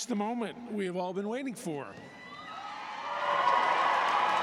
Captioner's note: cheers and applause